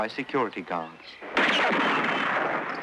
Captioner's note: gunshots